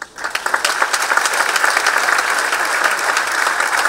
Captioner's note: applause